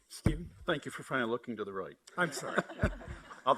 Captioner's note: laughs